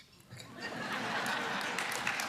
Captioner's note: laughter; applause